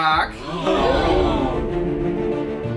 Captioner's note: sounds of shock